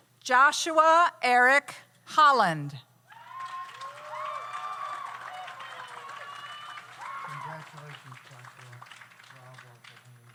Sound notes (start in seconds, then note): 3.1 audience cheers; 3.1 audience applauds